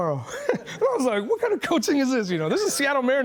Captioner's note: laughing